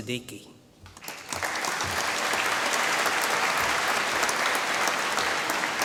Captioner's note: applause